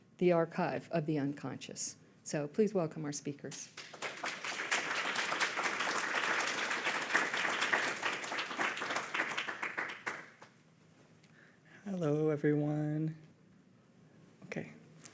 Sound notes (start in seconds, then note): 3.6 audience applauding